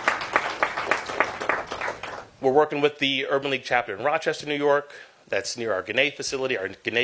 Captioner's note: applause